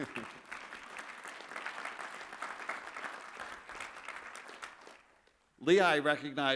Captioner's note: applause